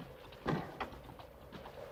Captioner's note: wind howling; door closes; wind howling